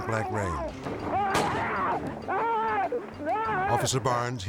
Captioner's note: screaming